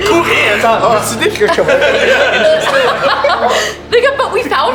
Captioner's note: laughter